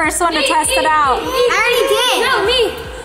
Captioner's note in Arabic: الأطفال يصرخون في الكورس